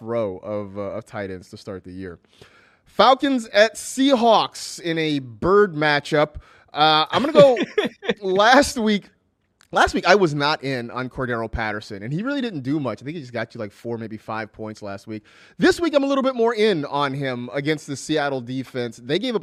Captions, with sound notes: PRETTY TOUGH ROW OF TIE-DOWNS. FALCONS AT SEAHAWKS IN A BIRD MATCH UP. [LAUGHS] LAST WEEK I WAS NOT IN ON PATTERSON. HE REALLY DID NOT DO MUCH. THIS WEEK I AM A LITTLE BIT MORE IN ON HIM AGAINST THE SEATTLE DEFENSE.